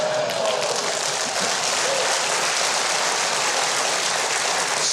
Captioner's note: audience applauds